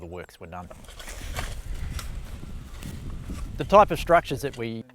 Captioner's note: shovel digging